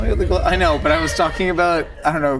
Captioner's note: crew laughing